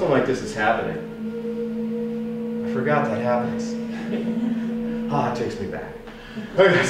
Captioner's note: steam whistle blows